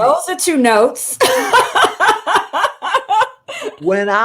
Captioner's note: laughter